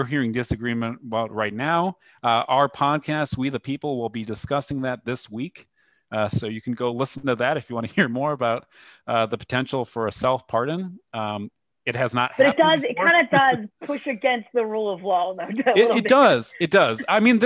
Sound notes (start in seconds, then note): 7.9 laughter; 15.1 laughter